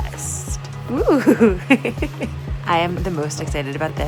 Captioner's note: laughs